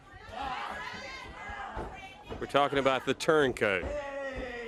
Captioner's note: crowd chatter